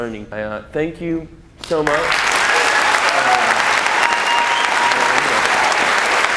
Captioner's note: applause